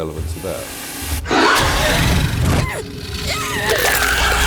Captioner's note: alien roaring